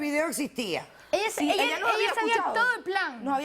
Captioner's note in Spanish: Hablan al unísono